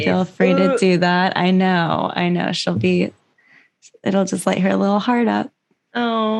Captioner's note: vomit sound; aww